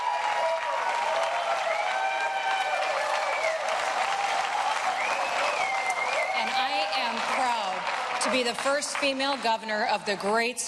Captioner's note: cheering and applause